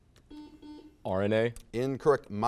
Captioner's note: buzzer sounds